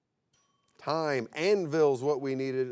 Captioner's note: bell chimes